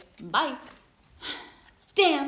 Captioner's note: sighs